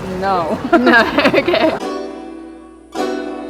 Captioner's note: laughs